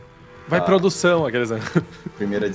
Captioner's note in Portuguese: risada